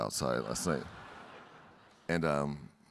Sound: audience laughing

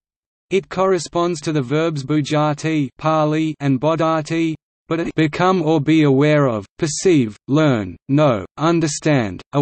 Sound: Pāli

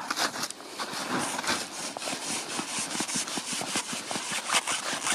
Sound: string rasping

